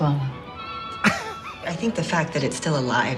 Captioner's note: Katya laughs